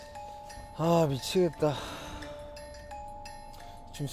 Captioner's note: just sighing away